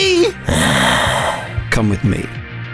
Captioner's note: sighs